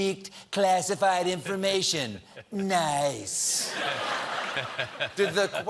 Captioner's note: laughter